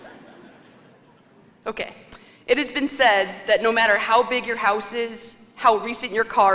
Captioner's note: laughter